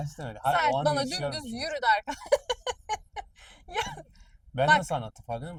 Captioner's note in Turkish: kahkaha